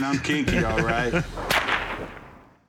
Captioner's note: Corey laughs; whipping